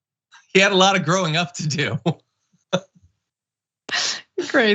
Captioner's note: laugh